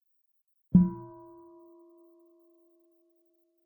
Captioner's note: half bell